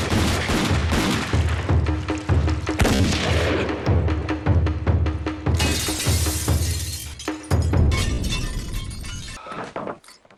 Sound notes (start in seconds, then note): 5.6 glass shattering